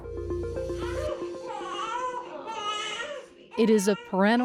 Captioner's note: infant crying